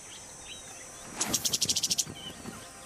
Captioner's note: chirps